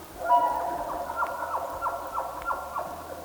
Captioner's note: elk bugling